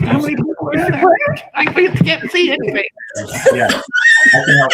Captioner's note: laughs